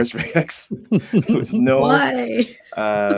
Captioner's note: laughing